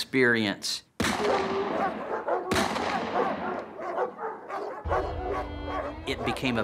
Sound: guns firing, dogs barking

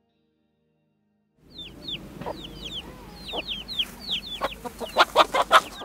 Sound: chickens Clucking

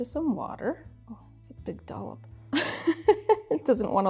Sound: laughs

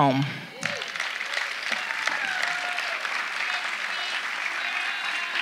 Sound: audience applauding

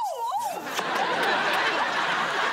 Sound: kissing sound

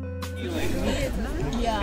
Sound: chatter

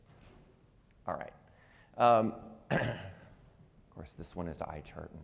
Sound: clears throat

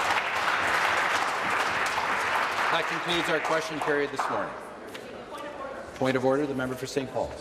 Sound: applause

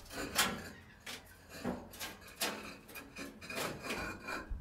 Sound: bricks scraping metal

